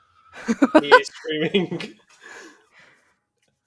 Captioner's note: laughs